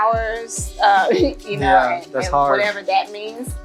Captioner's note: giggles